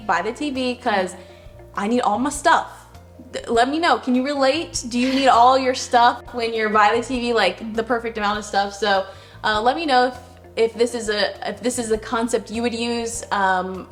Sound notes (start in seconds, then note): 5.0 laughs